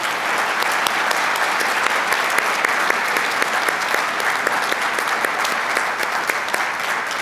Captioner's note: applause